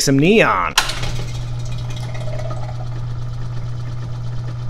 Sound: switch clicks, pump gurgles

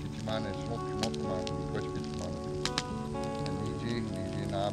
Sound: speaking Ojibwe

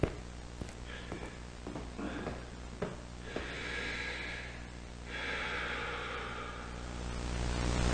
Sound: sigh

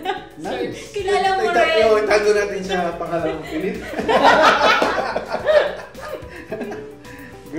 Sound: laughs

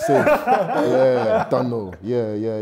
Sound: laughing

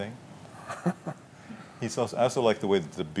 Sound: laughter

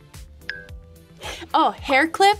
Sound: wink clinking

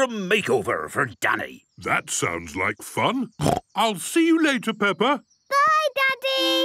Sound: snorting

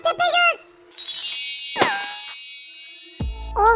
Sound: teleport sound

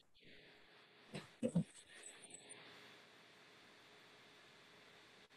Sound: chuckles

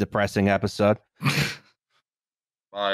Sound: laughs

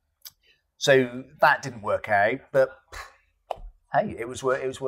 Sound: sighs

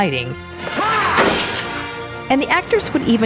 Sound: man screams

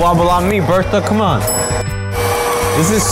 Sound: bell dings

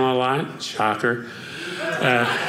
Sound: audience laughing

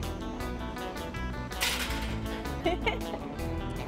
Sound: laughter

